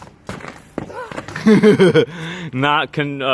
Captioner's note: laughing